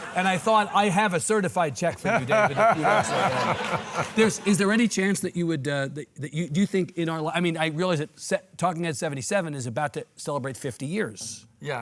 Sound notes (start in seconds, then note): 1.7 audience laughing